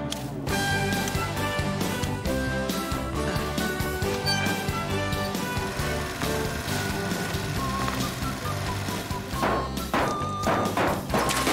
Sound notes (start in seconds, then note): 0.1 theme Song Playing; 5.8 trimmer Whirring; 8.8 hammering; 10.9 crash!